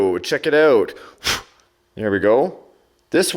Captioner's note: breath blows